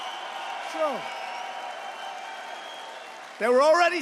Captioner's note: applause